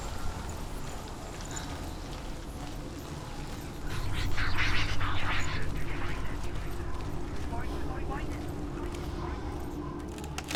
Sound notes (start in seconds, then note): 4.4 distorted, echoing